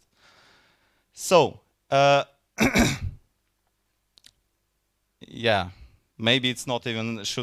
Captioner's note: coughs